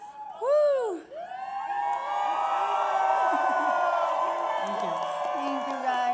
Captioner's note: applause